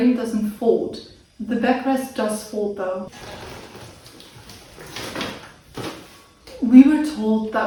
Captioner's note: wheelchair folds noisily